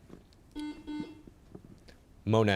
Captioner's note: buzzer chimes